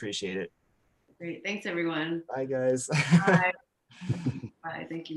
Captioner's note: laughs